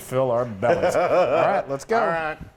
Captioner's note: laugh